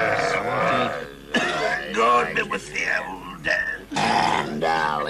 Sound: Brigand coughing

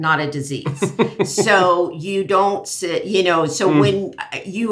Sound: laughs

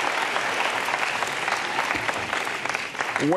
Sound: applause

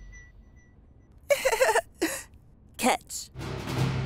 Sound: Britney giggles; dramatic music

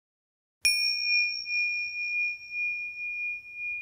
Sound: bell chimes

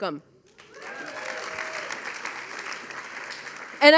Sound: audience applauding; audience cheering

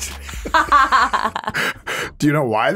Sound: both laughing

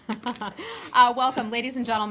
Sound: laughter

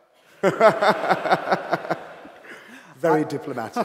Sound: laughter

